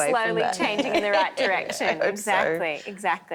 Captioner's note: laughing